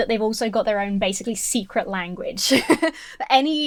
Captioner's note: laughs